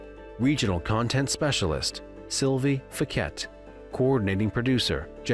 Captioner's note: none